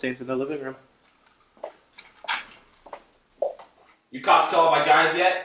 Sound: footsteps

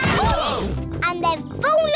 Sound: all groan

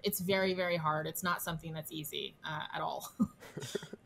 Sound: chuckles

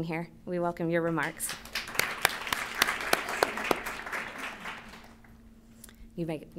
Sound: applause

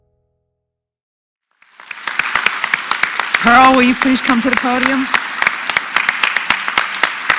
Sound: applause

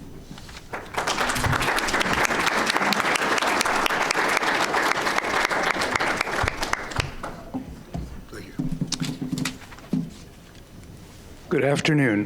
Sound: audience applauding

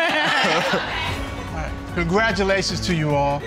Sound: all lauging

